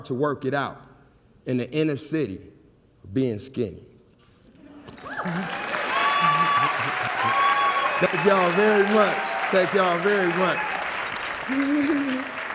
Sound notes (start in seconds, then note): 4.8 crowd cheering